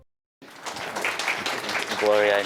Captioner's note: applause